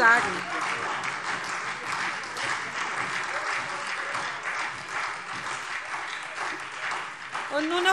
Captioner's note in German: Beifall SPD, Freie Demokraten und DIE LINKE